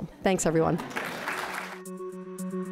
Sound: applause; light upbeat music

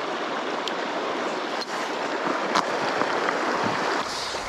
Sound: water rushing

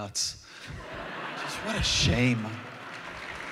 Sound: laughter; applause

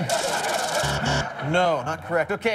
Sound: buzzer

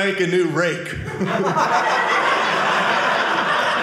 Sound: audience laughing

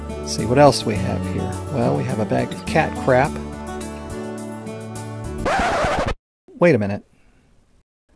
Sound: record scratch noise

